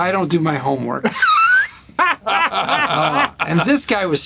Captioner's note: laughter